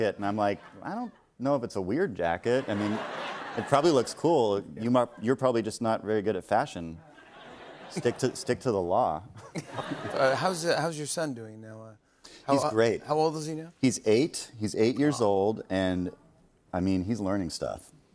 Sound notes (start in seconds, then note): 9.4 laughter